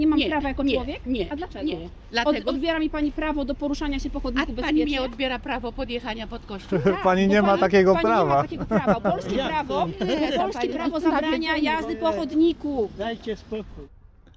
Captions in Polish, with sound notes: Nie mam prawa jako człowiek? - Nie, nie. - A dlaczego? Odbiera mi pani prawo do poruszania się po chodniku bezpiecznie? - A pani odbiera mi prawo podjechania pod kościół? - Pani nie ma takiego prawa! [śmiech] - Nie no, nawiedzeni. - Polskie prawo zabrania jazdy po chodniku! - Dajcie spokój!